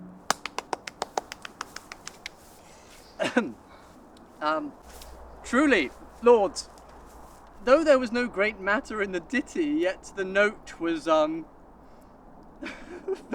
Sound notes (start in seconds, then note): 0.2 claps; 3.2 clears throat